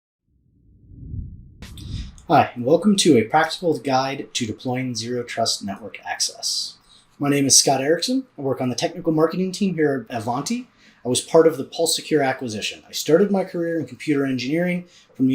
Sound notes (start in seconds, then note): 0.6 screen whooshes